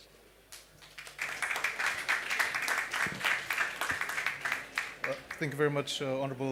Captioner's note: applause